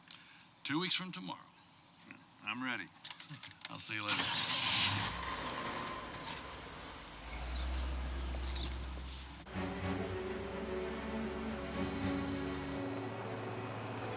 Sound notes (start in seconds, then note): 4.8 engine revs; 9.4 exciting music